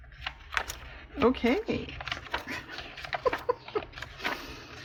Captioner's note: laughs